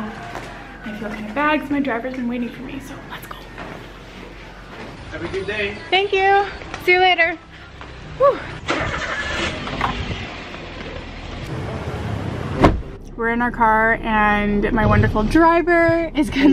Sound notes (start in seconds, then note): 8.5 engine revving; 12.5 car door slams